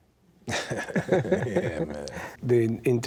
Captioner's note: laughing